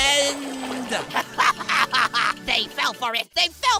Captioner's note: Golf Ball laughs